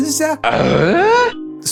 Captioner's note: Tim Allen grunt